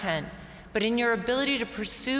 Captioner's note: none